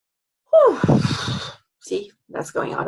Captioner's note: exhales loudly